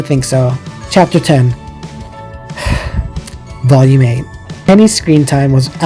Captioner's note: sigh